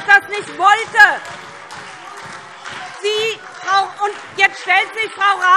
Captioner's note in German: Beifall SPD - Widerspruch CDU und BÜNDNIS 90/DIE GRÜNEN